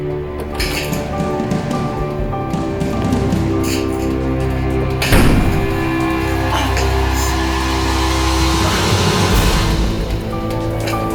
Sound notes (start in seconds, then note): 5.5 Katie groaning; 5.5 door thudding